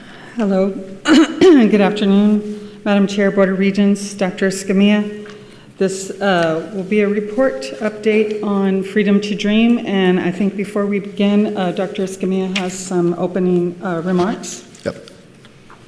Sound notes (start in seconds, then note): 1.0 clears throat